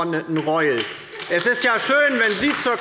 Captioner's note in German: Beifall bei der LINKEN und der SPD